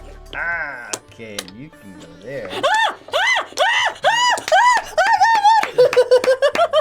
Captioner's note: laughs; screaming; laughs